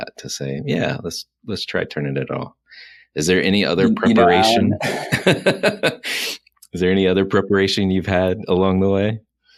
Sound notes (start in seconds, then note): 3.8 laughing